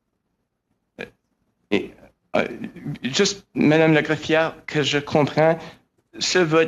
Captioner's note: speaking french